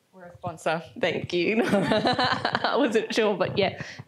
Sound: laughs

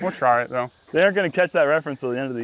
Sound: laughs

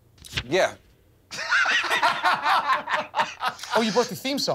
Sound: laughter

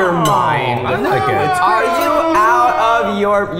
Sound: crying

